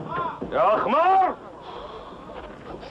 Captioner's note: thud; shouts in Arabic